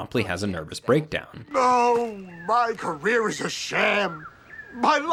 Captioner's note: birds chirping